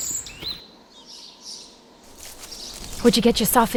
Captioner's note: birds chirp